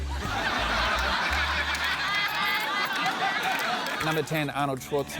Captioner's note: laughter